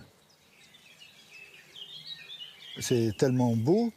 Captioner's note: birds chirping